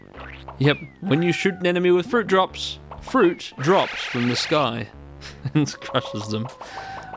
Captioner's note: chuckling